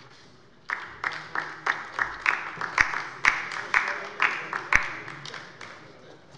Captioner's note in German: Beifall bei der LINKEN